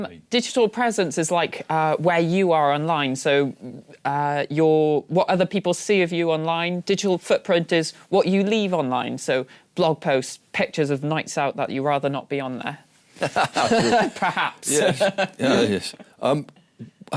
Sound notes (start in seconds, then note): 13.2 laughing